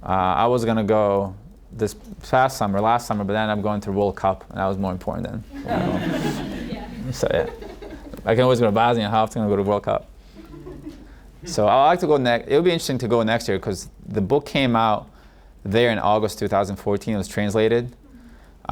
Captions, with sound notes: I was gonna go this past summer, last summer, but I ended up going to World Cup, and that was more important than, you know. (audience laughing) I can always go to Bosnia. How often can I go to World Cup? (audience laughing) So, I'd like to go next, it'll be interesting to go next year, 'cause the book came out there in August 2014, it was translated.